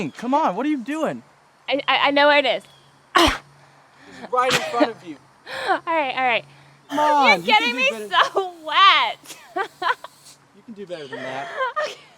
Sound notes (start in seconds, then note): 3.0 Donna grunts; 9.5 laughing